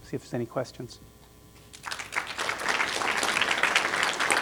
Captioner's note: applause